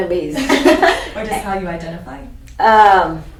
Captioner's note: laughs